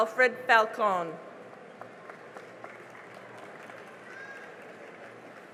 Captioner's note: cheering and applause